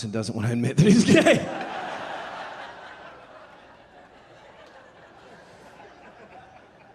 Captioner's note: laughing; audience laughing